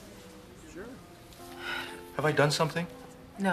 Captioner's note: sighing